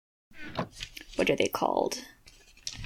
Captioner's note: page rustles